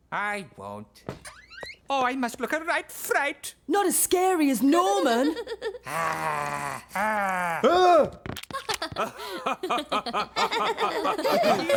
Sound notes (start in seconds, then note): 5.9 growls; 8.5 laughter